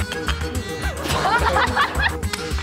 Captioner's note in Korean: 꺄핳하하하